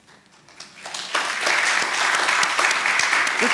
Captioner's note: applause